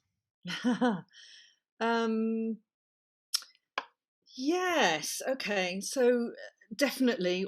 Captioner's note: laughter